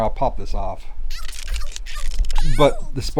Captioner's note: high Pitch Voice